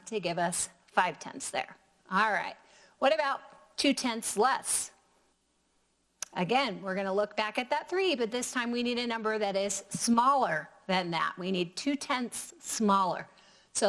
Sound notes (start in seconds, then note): none